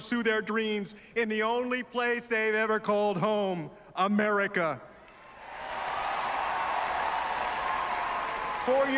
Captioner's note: applause